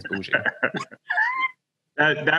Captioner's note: all laughing